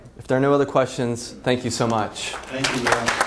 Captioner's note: applause